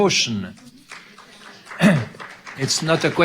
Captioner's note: audience clapping